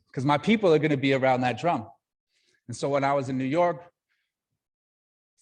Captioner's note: none